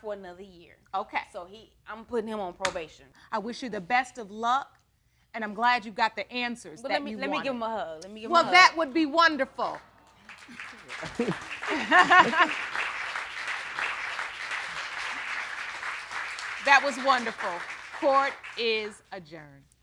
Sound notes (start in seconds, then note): 10.6 all laughing; 12.6 audience clapping